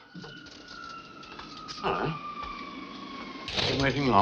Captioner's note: plane whirring